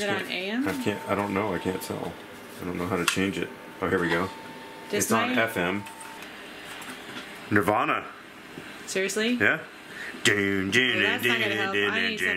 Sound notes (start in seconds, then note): 10.8 hums